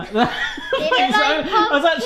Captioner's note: laughs